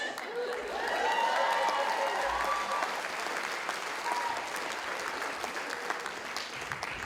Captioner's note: audience cheering; audience laughing